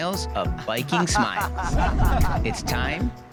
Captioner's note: laugh